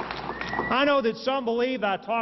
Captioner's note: applause